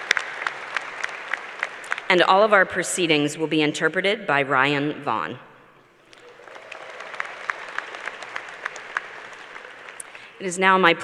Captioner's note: applause